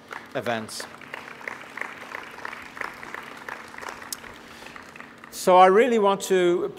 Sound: audience applauding

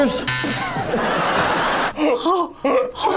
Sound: buzzer; audience laughs

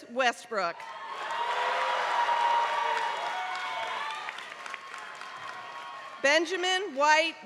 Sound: applause

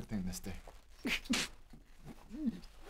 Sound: wails

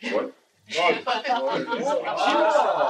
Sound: chatter

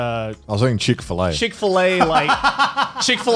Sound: laughs

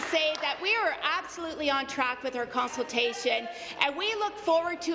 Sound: applause

